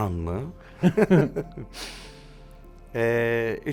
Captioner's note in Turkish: Gülüyorlar